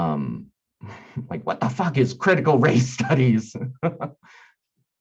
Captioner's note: laughing